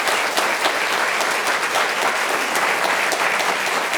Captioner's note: wild applause